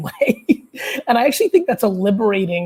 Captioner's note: laughing